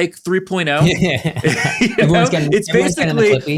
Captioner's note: chuckling